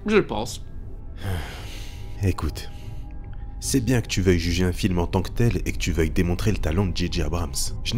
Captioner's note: sigh